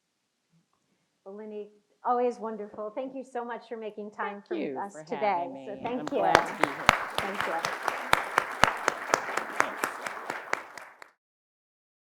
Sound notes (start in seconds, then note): 5.9 everyone clapping